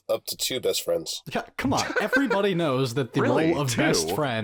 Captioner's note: scoffs